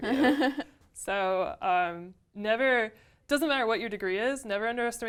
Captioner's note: laugh